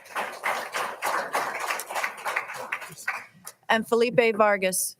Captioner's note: all applauding